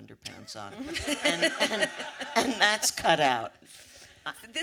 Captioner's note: audience laughter